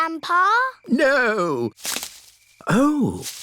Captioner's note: rustling